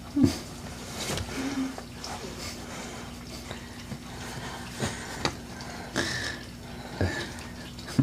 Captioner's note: awkward breathing